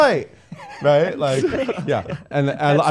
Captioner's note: laughing